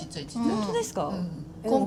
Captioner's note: laughs